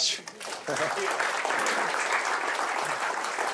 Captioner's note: applause